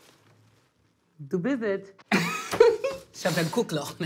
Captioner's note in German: Er lacht